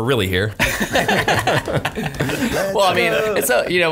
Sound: laughing

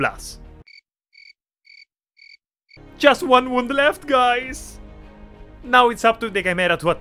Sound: crickets sound

